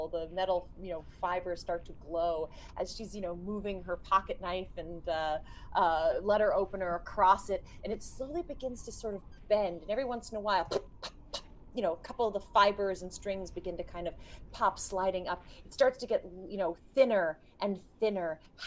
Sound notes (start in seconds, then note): 11.0 game Master scratching